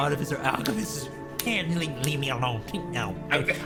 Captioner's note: Dread's Krel voice